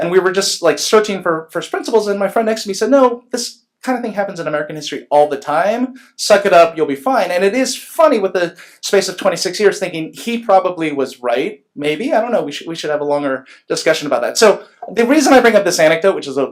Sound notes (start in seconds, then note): none